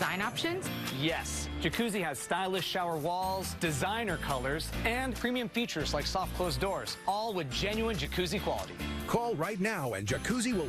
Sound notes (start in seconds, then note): none